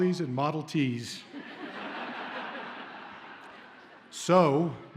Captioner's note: audience laughs